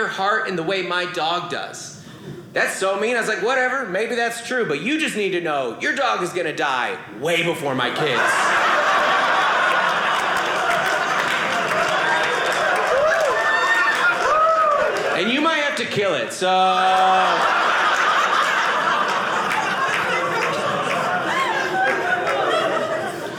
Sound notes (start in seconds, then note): 7.9 audience laughing; 11.2 audience clapping; 16.8 audience laughing